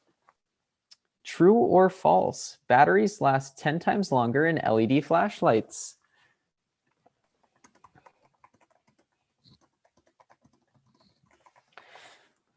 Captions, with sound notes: True or false? Batteries last 10 times longer in LED flashlights. (keyboard typing)